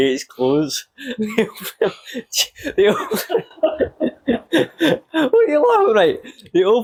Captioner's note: laughter